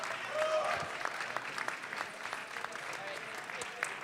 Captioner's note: audience clapping and cheering